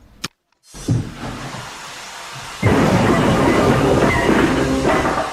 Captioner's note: loud clattering sounds and drilling; knocking